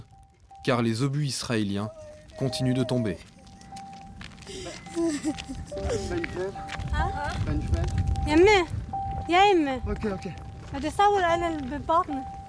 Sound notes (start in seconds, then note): 6.3 arab spoken audio